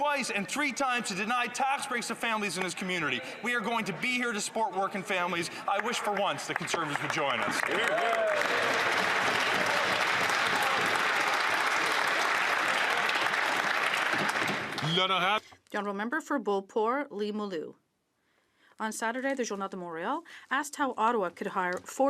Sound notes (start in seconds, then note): 11.1 some Applause